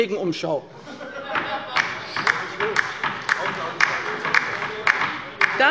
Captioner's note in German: Heiterkeit und Beifall bei der LINKEN - Zurufe von der CDU